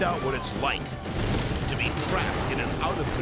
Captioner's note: race car exploding